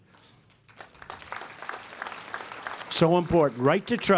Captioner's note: applause